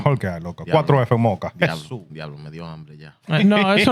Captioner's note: speaking Spanish